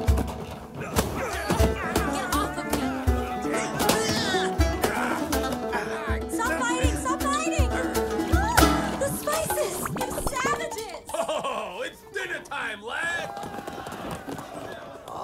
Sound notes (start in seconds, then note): 3.5 all grunt; 8.1 she gasps; 11.0 sailor laughs